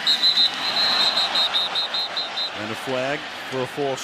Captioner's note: whistling